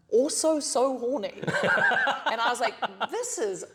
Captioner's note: laughter